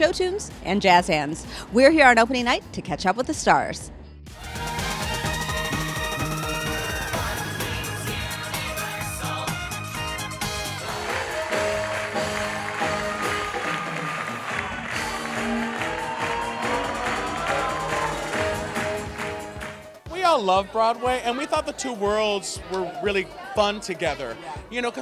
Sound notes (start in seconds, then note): 10.5 cheers; 10.8 applause